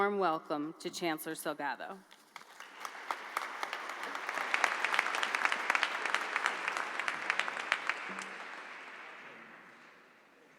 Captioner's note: applause